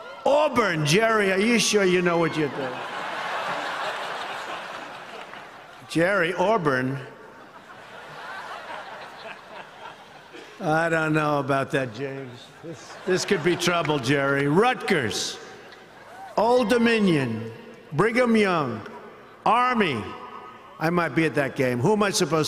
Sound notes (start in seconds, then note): 7.2 laughter